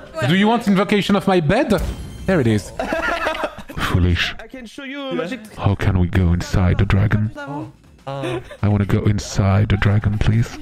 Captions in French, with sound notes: Tu veux une invocation de mon lit ? [pouf !] Le voilà. [rire] [voix grave] Foolish. Ouais..? Comment on rentre à l'intérieur du dragon ? Oh. Euh.. Je veux aller dans le dragon, s'il te plaît. [rire] [rire] Je veux aller dans le dragon, s'il te plaît.